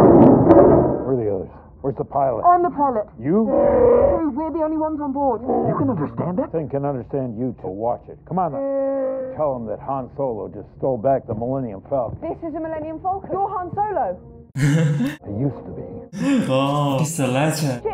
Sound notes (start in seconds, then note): 3.5 chewie growls; 8.6 chewie growls